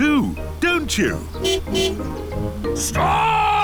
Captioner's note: tires screeching; car honking